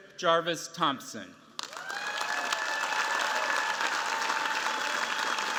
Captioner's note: cheers, applause